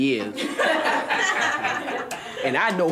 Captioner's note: audience laughing